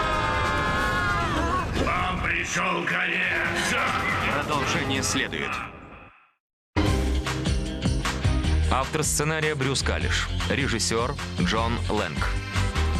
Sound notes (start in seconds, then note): 3.6 laughs evilly